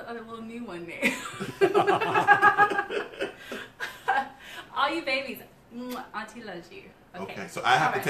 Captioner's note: laughter